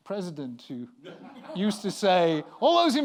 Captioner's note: laughter